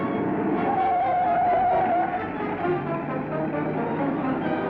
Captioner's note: tires screeching; thrilling music